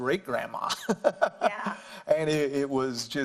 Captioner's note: laugh